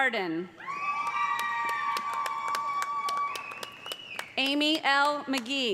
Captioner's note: cheers and applause